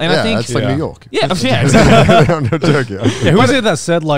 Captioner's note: all chuckling